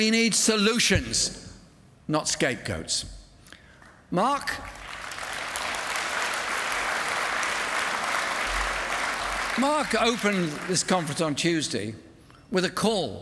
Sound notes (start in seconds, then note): 4.5 applause